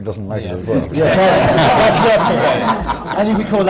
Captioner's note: laughter